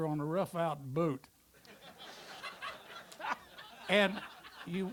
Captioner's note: audience laughter